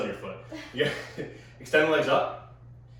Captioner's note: chuckles